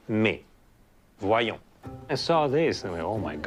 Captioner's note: speaking French; in English